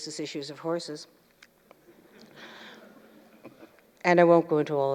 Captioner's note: laughter